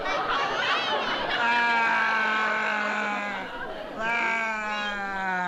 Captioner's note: wails